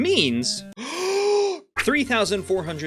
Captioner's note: deep Breath